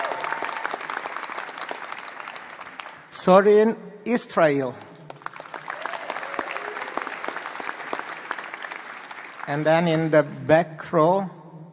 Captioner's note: applause